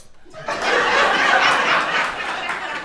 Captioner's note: crowd laughing